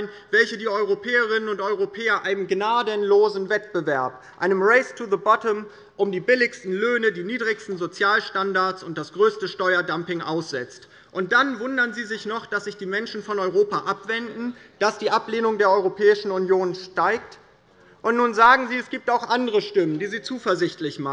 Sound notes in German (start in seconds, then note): none